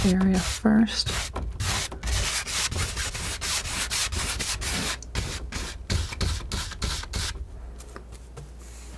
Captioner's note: tapping